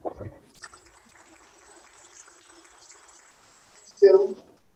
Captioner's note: audience applauds